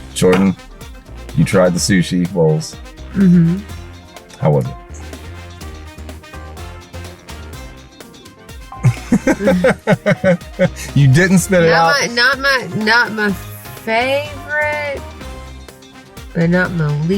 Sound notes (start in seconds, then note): 8.8 laughs